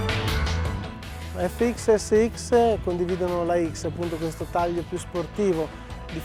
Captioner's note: speaking Italian